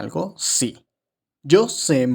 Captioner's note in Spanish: Silencio